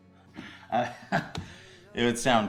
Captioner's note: Alan laughs nervously